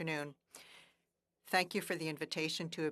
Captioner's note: speaking French